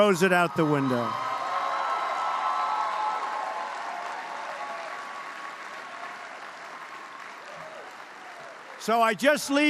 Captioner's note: applause